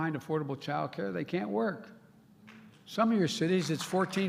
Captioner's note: applause